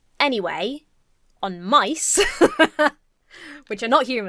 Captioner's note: laughs